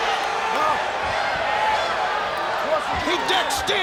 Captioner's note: crowd boos